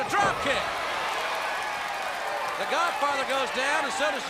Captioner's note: crowd cheering